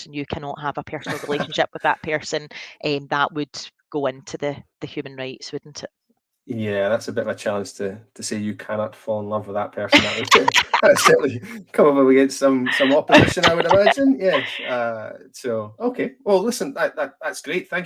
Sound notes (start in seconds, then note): 9.9 laughs